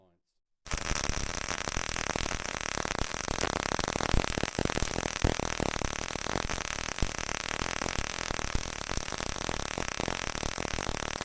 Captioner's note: welding sound - short arc